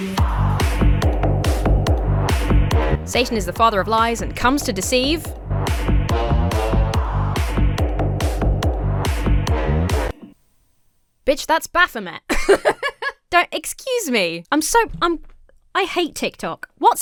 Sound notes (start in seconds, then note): 5.4 lively dubstep music; 12.2 laughs